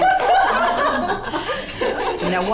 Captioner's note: laughter